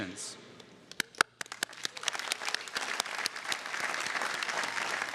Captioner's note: audience applauding